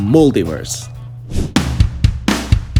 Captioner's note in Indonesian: suara transisi; opening rock music